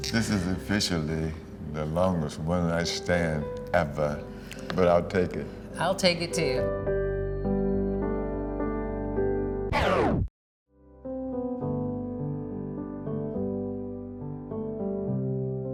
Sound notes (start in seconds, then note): 7.0 gentle affecting music; 9.7 record scratches; 10.8 gentle affecting music